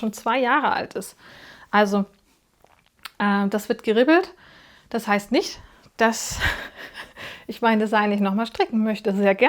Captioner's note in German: gelächter